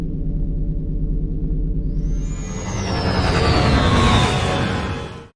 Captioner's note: humming sound; pod racer sounds